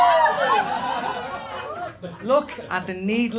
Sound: crowd screams

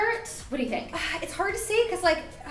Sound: sighing

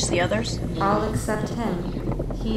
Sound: moans weakly

